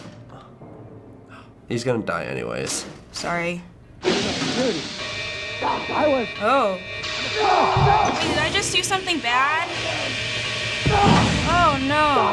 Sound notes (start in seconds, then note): 3.8 hissing noises; 5.3 warnings go off; 7.1 patient screams